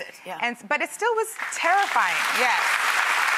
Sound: applause

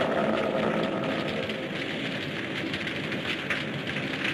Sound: fire crackles

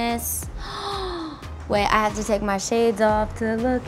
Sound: gasps

